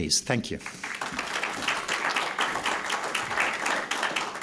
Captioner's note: applause